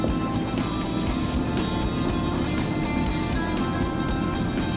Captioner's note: fishing line whirring